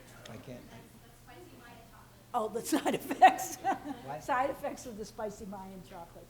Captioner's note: laughs